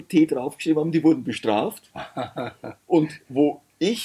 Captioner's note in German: lacht